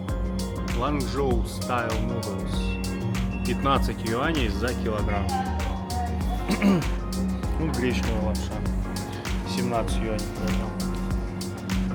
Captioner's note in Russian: откашливается